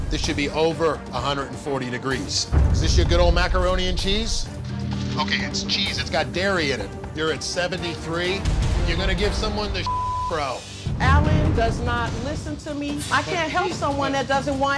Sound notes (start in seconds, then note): 9.8 beep